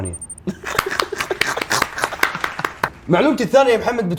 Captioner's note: applause and laughter